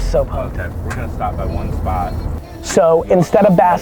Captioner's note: pat